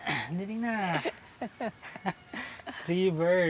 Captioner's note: laughing